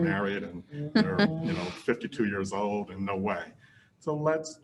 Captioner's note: laughs